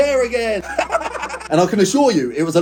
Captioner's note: laughs maniacally